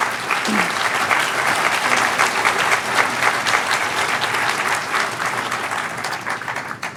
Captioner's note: cheers and applause